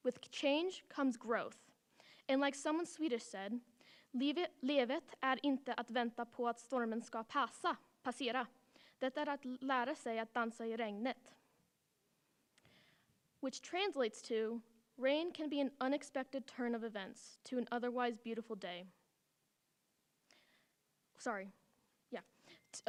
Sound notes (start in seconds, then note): 13.0 speaking swedish